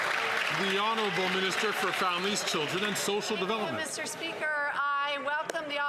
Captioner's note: some Applause